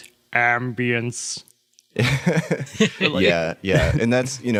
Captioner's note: laugh